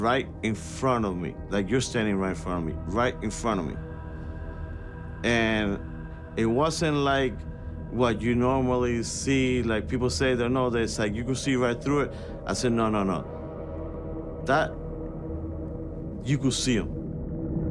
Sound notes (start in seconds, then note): none